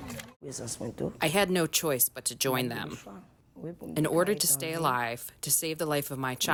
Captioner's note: through translator